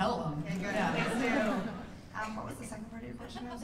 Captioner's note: laughter